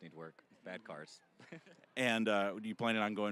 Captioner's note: chuckling